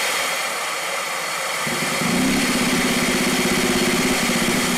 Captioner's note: engine revving